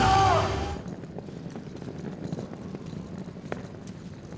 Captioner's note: suitcase rolling